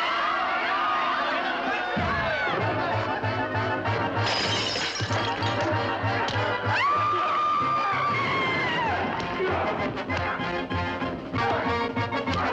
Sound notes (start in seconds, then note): 5.5 woman screams